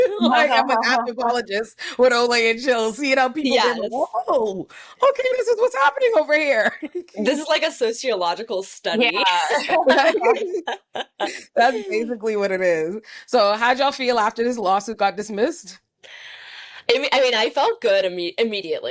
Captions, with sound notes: like I'm an anthropologist with Olay and Chill, seeing how people are going, whoa. Okay, this is what's happening over here. This is like a sociological study. (laughs) That's basically what it is. So how'd y'all feel after this lawsuit got dismissed? I mean, I felt good immediately.